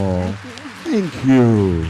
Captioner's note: applause